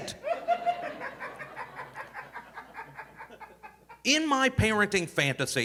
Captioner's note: audience laughing